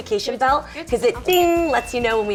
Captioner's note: ding